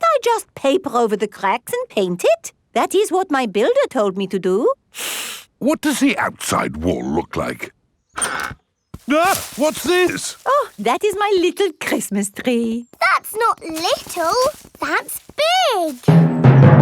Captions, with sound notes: Can't I just paper over the cracks and paint it? That is what my builder told me to do. (INHALES SHARPLY) What does the outside wall look like? (EXCLAIMS) What's this? Oh, that is my little Christmas tree! That's not little! That's big!